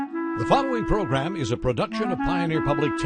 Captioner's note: voiceover